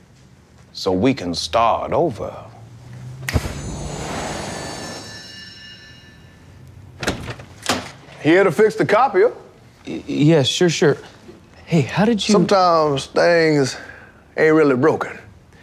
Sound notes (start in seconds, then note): 3.0 snap; 3.3 magical chiming